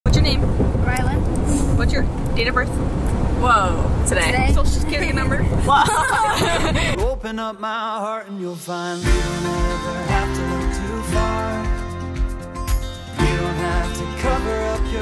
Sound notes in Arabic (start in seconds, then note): 5.7 يضحك; 5.8 ضحكة مكتومة